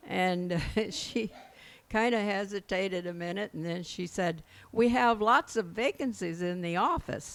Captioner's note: laughs